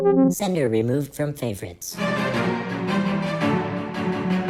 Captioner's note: transmission-end noise